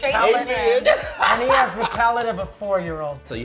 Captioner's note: laughing